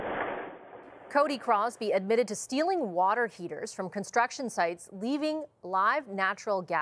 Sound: explosion

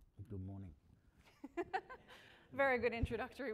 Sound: laughs

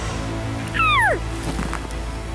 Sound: cow calls

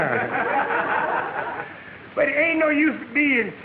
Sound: audience laughing

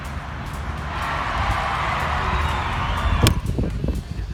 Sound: shouting out!

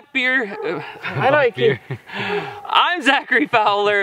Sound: chuckles

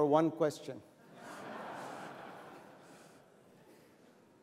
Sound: laughter

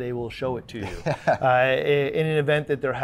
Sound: laughs

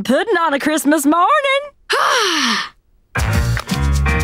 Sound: sighing

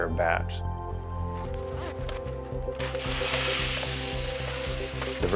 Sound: beans being placed into roaster

